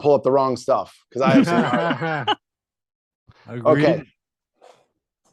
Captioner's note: laughing